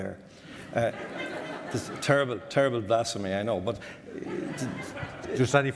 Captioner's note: audience laughter